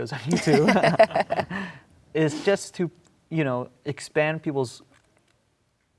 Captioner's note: laughs